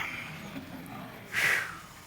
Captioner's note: sighs